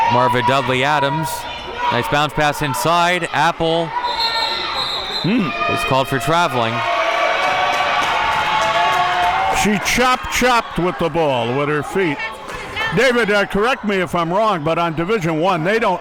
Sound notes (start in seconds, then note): 4.0 whistle blows; 7.9 audience cheering